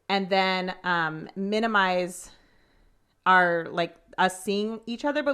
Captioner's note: none